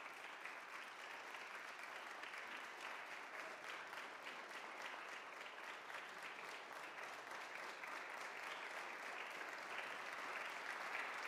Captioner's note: applause